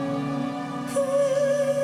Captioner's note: chanting